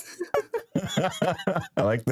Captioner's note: laughing